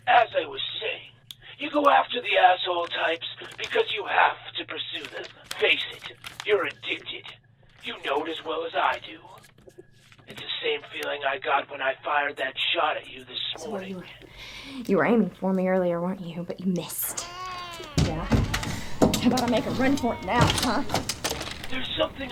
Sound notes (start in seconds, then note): 17.0 baby crying